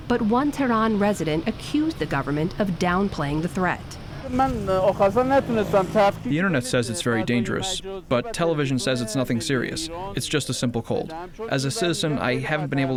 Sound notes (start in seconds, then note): 5.3 through translator